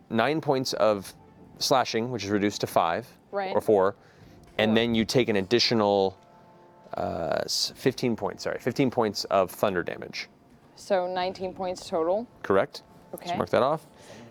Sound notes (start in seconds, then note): none